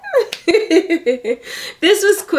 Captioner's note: laughs